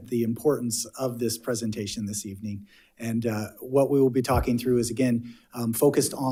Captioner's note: none